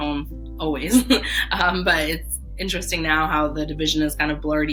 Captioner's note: laughing